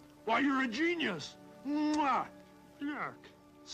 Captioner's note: kissing